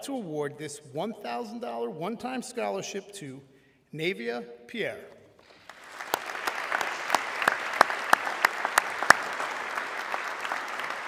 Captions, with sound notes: to award this $1,000 one-time scholarship to Navia Pierre. (audience clapping)